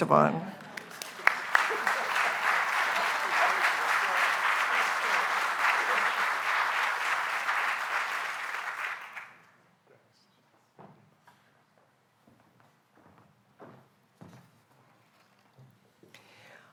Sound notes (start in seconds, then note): 0.5 applause